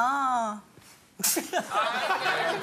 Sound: laugh

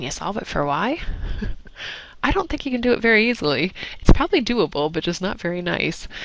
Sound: laugh

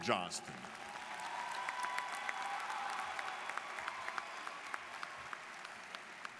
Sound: students cheering and applauding

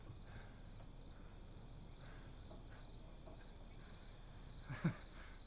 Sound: breathing heavily

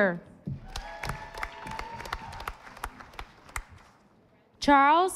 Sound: audience applauding

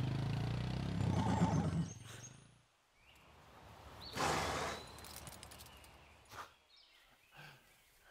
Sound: horse neighing

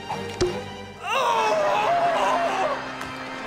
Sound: muffled screaming

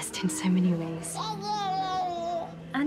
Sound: baby cooing happily

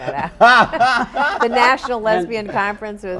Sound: laugh

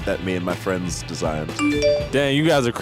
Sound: phone chiming

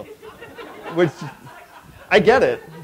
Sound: laughter

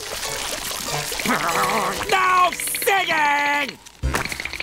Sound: groaning

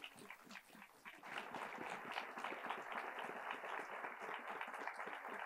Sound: attendees applauding

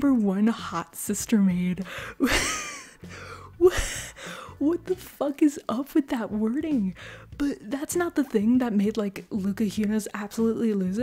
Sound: laugh

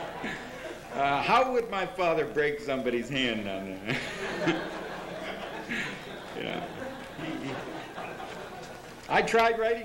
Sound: laughter; laughter

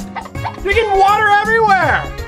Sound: laughter

